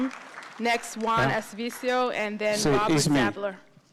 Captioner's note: speaks in spanish